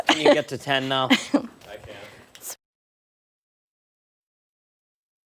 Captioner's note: laughter